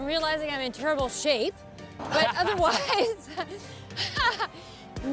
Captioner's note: laughs